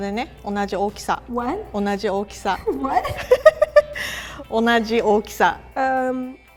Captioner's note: both chuckle